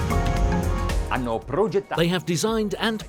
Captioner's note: speaking in a foreign language